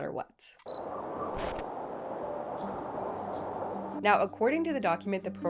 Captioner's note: wind whistling